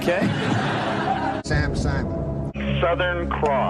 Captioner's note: laughter